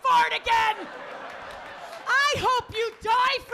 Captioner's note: audience laughing